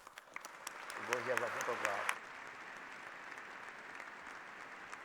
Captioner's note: applause